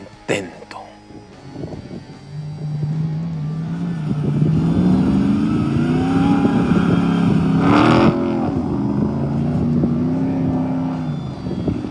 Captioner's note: wind blowing; engine roaring